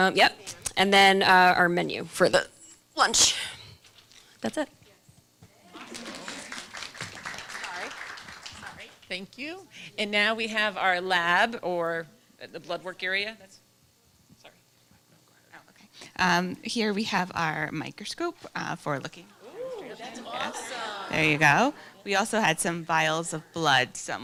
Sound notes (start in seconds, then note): 5.6 applause